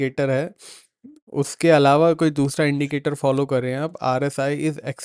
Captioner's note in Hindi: नाक से की जाने वाली आवाज़